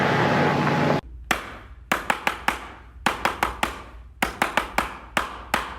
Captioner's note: rhythmic hand clapping